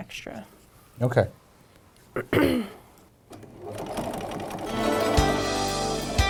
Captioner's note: sound of sewing machine